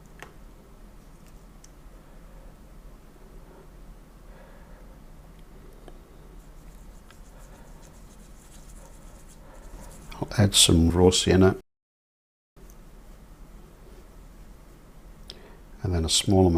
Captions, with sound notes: (silence) (silence) I'll add some rosina (silence) and then a small